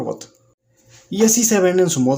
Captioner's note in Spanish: Silencio